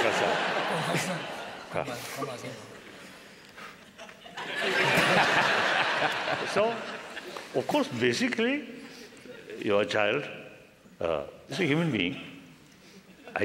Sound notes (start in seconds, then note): 5.3 laughter